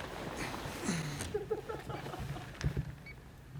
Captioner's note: laughter